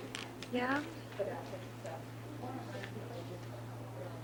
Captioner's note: audience chattering